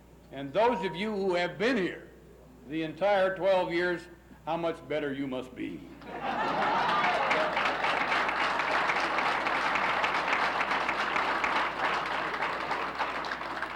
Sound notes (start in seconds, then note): 6.1 laughs; 6.5 applauses